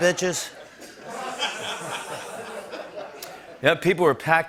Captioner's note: laughter